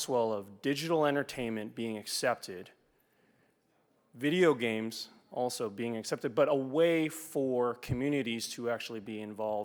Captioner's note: none